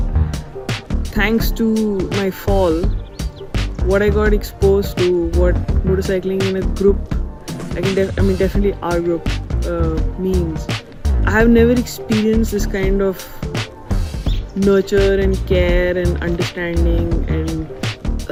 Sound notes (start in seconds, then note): none